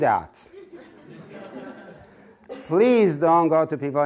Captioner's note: audience laughing